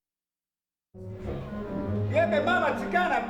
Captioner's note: speaks fake Spanish